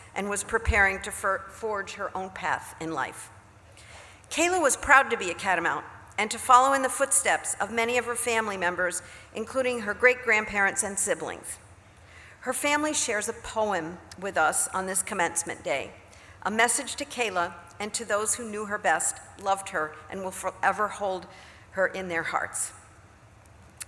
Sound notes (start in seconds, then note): none